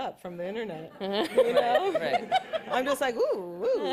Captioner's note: laughter